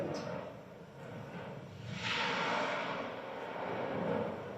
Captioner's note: magma hissing